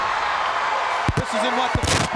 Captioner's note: crowd cheering